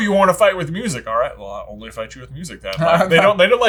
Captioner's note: voice muffling